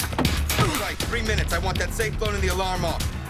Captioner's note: grunts